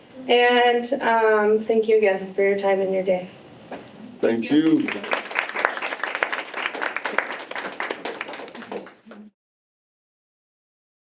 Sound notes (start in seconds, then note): 4.6 clapping